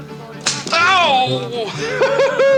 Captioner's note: cap pops